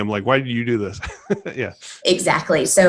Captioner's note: laughing